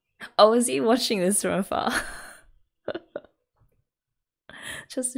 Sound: laughs

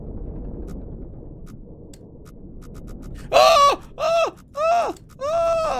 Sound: yelps

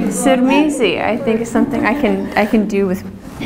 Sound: laugh

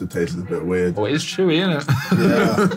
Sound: laughing

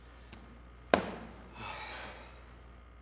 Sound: deep sigh

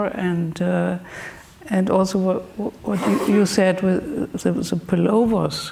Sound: speaks German

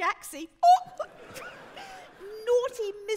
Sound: audience laughing

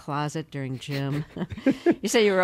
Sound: laughter

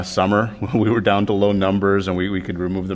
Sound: laughter

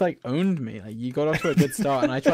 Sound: laughing

